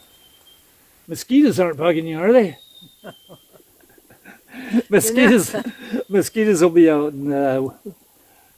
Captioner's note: laughter